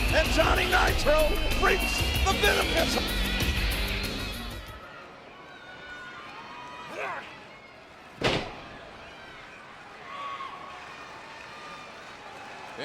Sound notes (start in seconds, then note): 8.1 audience cheering; 8.2 wrestlers thudding